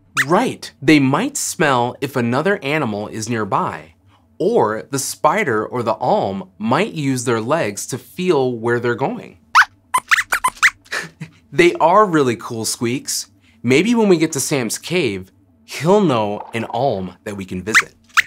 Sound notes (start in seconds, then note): 9.9 squeaks squeaks